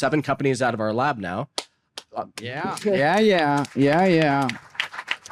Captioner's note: applause